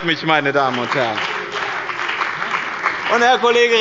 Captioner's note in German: Beifall bei dem BÜNDNIS 90/DIE GRÜNEN und der CDU